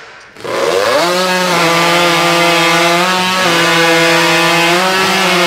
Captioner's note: chainsaw buzzing